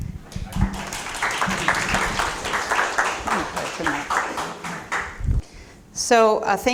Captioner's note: applause